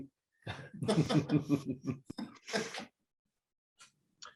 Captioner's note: men laughing